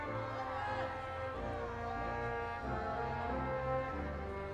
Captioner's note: audience cheering